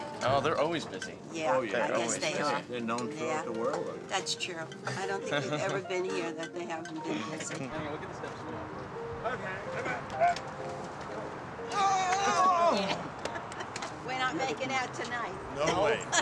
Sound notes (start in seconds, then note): 11.8 grandfather groans; 11.8 laughs